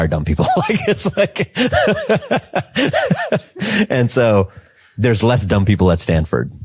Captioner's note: laughs